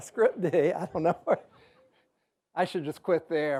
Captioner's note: chuckles